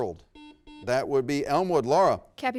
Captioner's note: buzzer rings